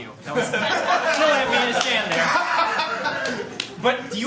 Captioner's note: laughter